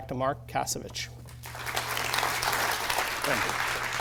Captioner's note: applause